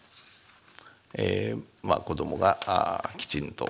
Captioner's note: speaking japanese